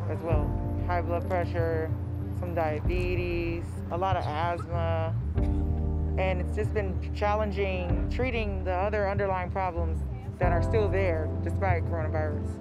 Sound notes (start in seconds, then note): 5.4 coughing